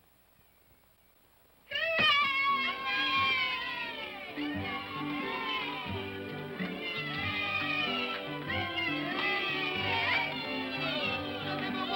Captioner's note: children cheer; upbeat music